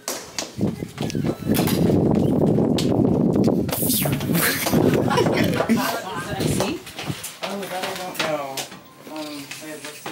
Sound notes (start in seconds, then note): 1.6 wind whooshes; 4.2 vocalizes and laughs